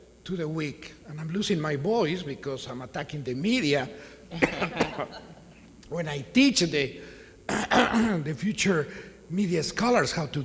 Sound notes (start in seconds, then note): 4.3 coughs